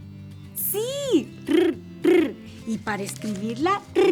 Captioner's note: rolling tongue